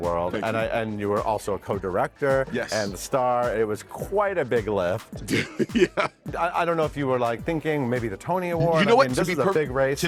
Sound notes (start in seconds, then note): 5.3 laughs